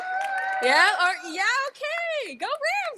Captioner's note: audience cheering